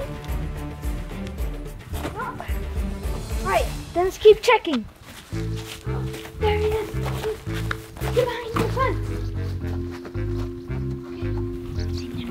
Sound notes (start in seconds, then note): 0.0 upbeat music; 5.1 footsteps; 10.1 groovy music